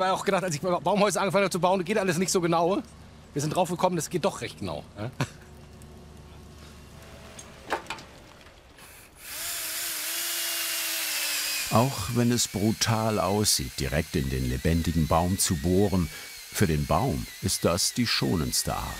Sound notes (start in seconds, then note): 9.2 drilling noises